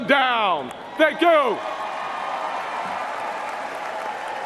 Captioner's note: speaking non-English